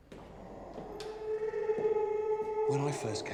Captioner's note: dinosaurs screeching